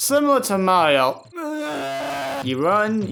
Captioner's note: cries